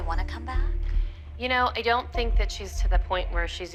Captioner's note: none